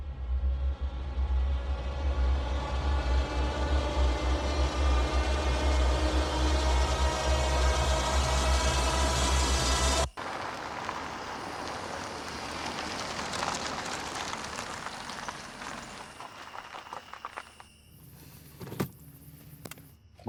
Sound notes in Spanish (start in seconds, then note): 0.3 música siniestra; 10.3 vehículo acercándose